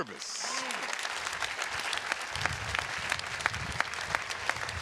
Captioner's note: audience applauding